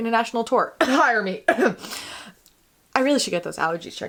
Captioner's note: coughs